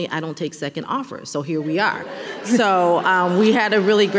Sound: audience laughing

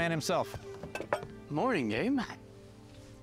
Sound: sighs

